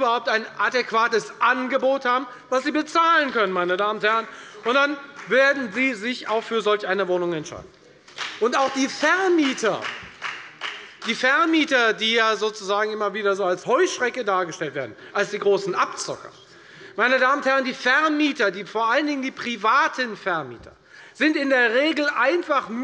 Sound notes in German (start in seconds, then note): 8.0 Beifall bei der FDP